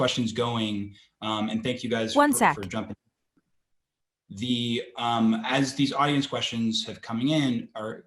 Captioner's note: Siri on iPhone